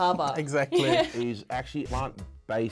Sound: chuckles

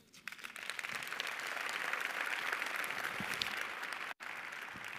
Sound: audience applauding

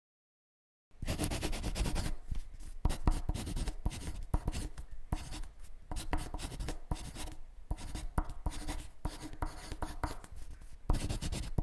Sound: writing sounds

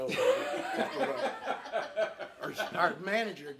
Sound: all laughing

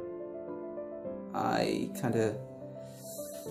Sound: voiceover

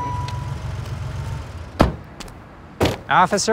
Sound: car door slams

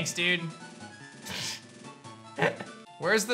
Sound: chuckles

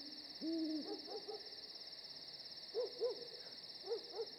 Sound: night ambience

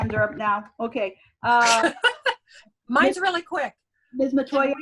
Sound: laughs

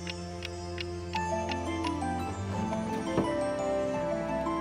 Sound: clock ticking

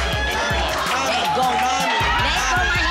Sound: cheering

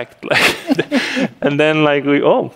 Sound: laughter

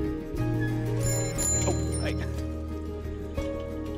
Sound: jingles bicycle cell

